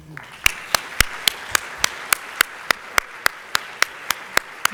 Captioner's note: audience applauding